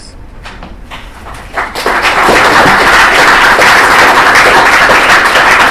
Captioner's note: applause